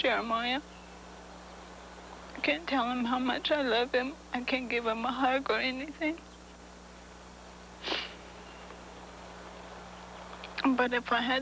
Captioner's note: sniffling